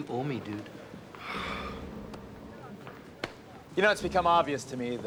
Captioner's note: sighs